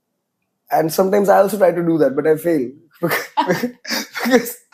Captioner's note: laughs